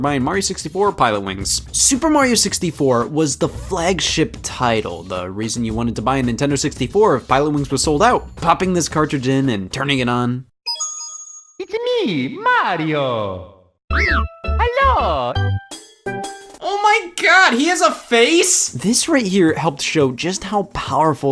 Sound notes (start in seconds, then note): 10.6 game beeps; 10.7 jingle plays